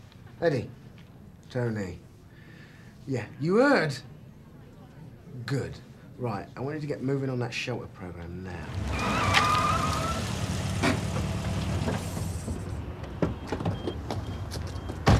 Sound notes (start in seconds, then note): 8.6 brakes screeching; 12.5 car doors clicking